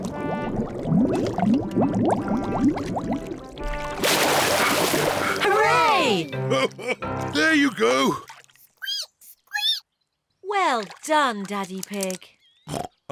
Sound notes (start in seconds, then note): 5.2 laughs; 8.9 squeaks; 12.7 oinks